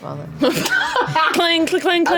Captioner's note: laughs